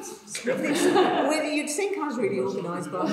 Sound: audience laughs

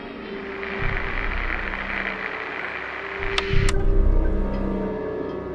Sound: radio detuning and turning off; suspenseful music

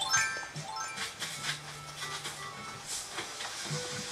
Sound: bells chiming

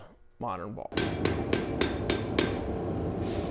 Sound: hammer strikes; blows

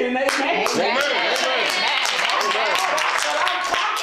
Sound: crowd

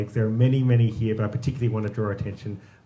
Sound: none

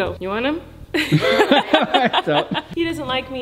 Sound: both laughing

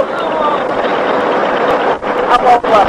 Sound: bank Angle Warning

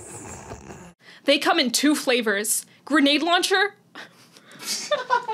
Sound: laughing

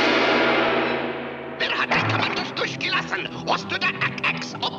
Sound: shouting in German

